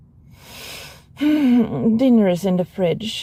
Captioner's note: sigh